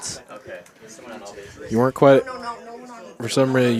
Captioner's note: indistinct chatter